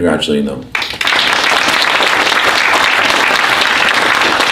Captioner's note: applause